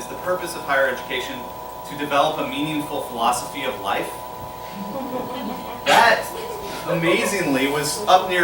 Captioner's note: laughter